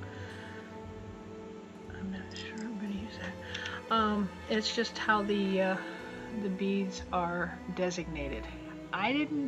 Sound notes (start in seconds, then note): 1.7 quietly; 3.9 normal voice